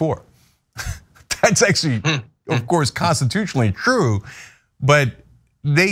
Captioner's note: laugh